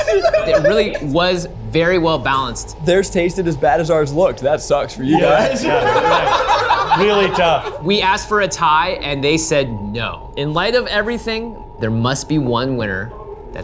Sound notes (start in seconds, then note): 5.1 all laughing